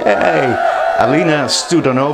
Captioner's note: cheering